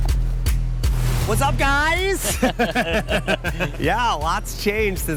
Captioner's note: steady tempo hip hop music; laughs